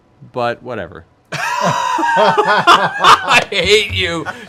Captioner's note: laughter